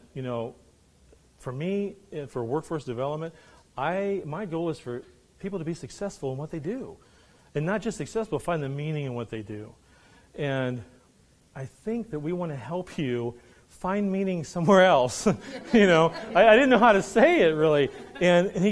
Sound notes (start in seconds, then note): 15.3 laughing